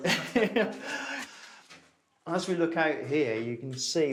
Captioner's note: chuckles